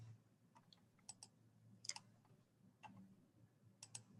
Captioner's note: mouse clicking